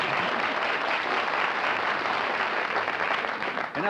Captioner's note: applause